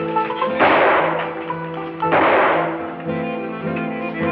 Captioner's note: gunshots